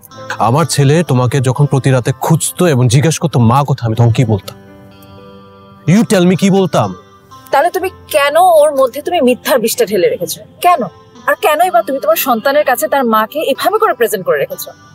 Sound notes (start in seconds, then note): none